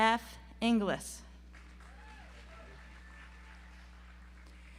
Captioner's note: audience applauds